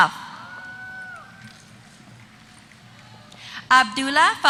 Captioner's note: applause